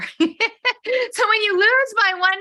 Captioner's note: laughing